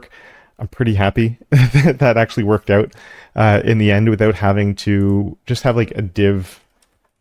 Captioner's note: laugh